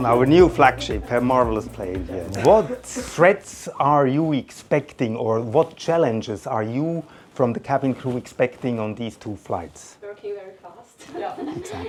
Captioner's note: laughter